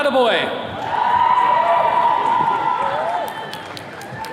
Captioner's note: attendees cheering